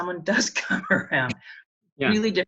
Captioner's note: laughs